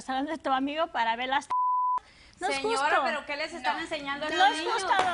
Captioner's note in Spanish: Bip